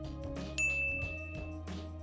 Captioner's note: bell dings